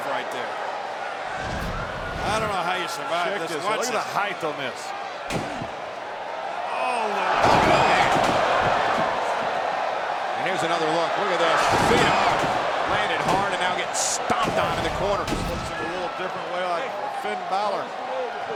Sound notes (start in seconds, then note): 0.9 graphics whooshing; 7.4 body thudding; 11.6 body thudding; 15.3 blows thudding; 15.3 graphics whooshing